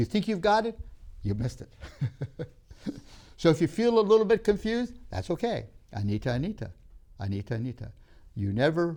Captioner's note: speaks Hindi; laughs; speaks Hindi